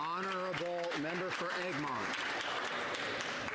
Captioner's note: some Applause